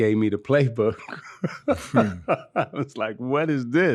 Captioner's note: laughing